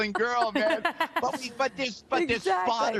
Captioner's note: laughter